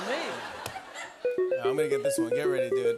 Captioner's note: beeping